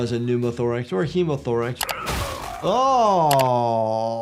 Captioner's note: grunting